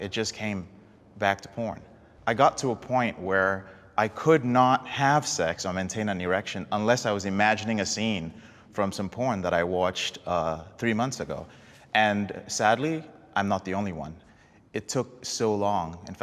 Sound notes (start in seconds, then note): none